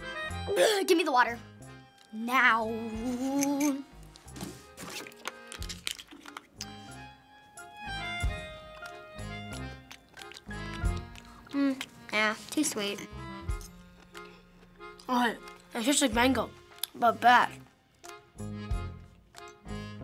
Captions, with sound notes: Blargh! Give me the water. Nowww. (chewing noisily) - Mm, eh. Too sweet. - Oh, it tastes like mango, but bad.